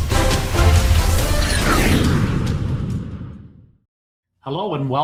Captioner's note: airplane whooshing